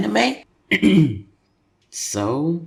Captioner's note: throat clearing